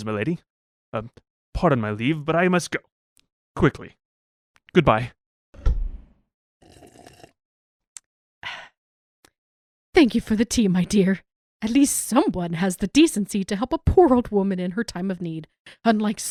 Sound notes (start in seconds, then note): 5.6 door closes; 6.6 sipping tea